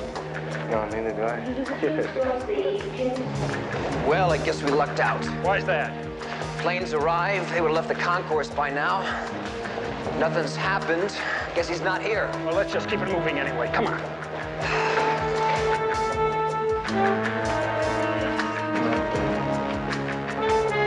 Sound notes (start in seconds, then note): 1.5 both laughing; 14.4 sighs; 17.7 tense theme playing